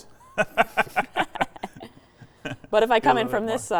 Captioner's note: laughter